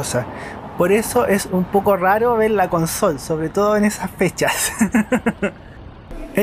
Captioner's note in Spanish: risas